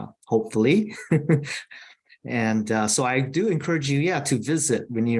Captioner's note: chuckles